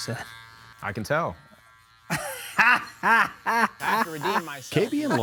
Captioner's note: laughing